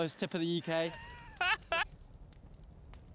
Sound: laughing

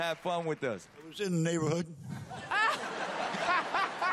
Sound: laughter

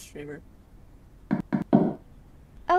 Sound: knock knock knock

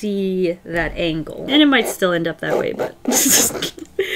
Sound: laughs

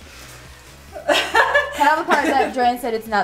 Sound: laughs

